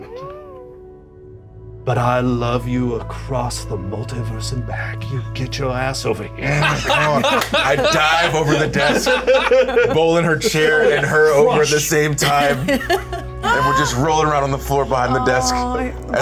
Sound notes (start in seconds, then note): 6.4 laughter